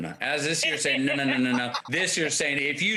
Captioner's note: laughs